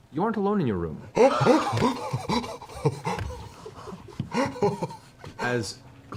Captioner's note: laughing gasp